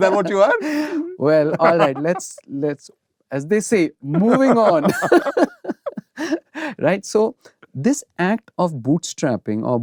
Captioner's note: laughter; gasps